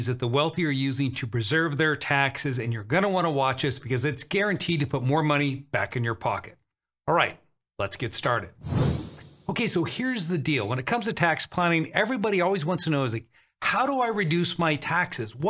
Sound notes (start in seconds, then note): 8.6 air whooshing